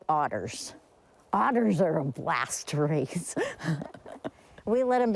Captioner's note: chuckles